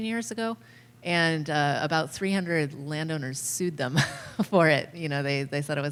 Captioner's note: laughter